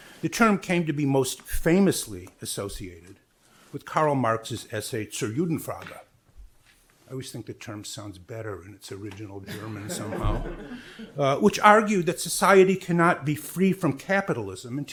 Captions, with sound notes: The term came to be most famously associated with Karl Marx's essay (speaks in foreign language). I always think the term sounds better in its original German somehow. Which argued that society cannot be free from capitalism